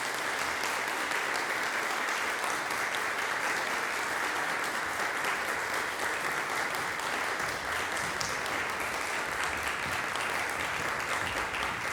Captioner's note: applause breaks out; applause continues